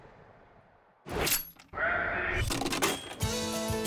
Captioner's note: key clicking; ticket machine dinging; mellow soft rock music